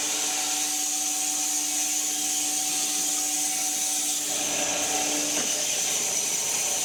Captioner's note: woodcutting machine hissing continues